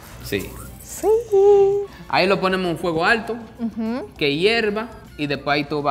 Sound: speaking in foreign language

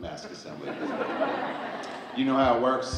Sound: audience laughing

